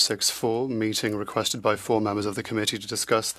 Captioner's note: speaking French